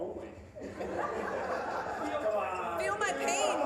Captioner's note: audience laughing